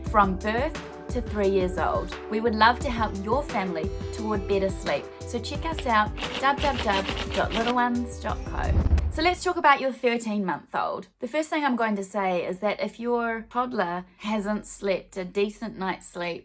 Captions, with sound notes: from birth to three years old. we would love to help your family toward better sleep, so check us out, www.littleones.co. (typewriter clacking) (swooshing) So let's talk about your 13 month old. The first thing I'm going to say is that if your toddler hasn't slipped a decent night's sleep